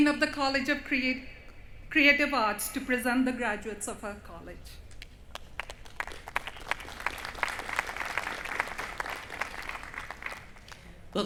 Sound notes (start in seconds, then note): 5.3 applause